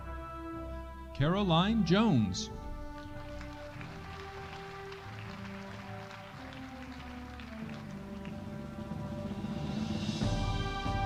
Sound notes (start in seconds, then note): 2.8 audience applauding